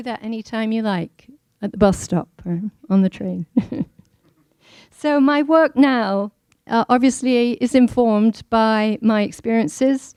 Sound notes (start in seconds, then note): 3.7 laughing